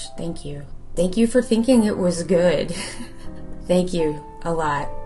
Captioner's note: laughs